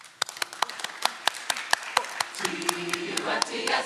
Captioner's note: audience clapping; upbeat music